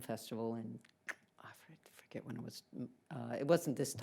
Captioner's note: clicks tongue